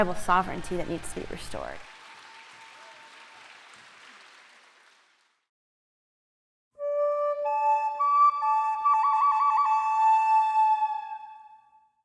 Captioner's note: applause